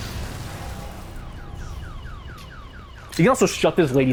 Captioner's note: explosion; car alarm sfx